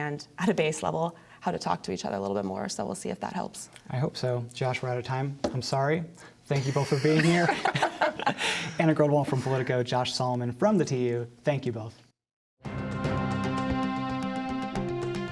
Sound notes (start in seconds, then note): 6.6 laughter